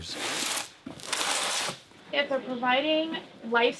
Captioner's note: box scraping